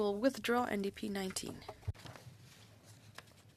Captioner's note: speaking French